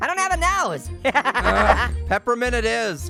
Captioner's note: laughs